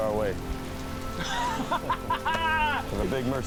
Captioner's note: laughs